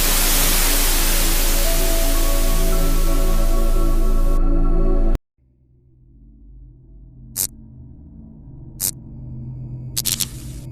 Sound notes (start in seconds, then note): 2.2 tv static noises; 7.8 elecricity flickers